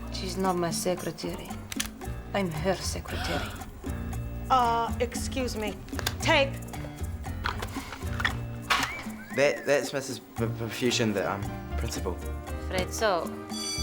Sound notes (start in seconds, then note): 3.1 gasps